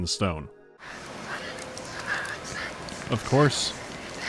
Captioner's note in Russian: призрачный шёпот